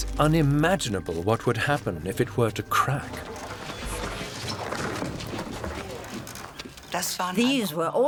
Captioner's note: marble block crashes against pole; ropes tense